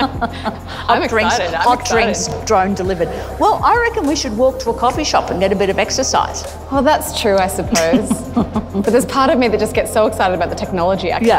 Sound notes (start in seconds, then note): 7.7 laughs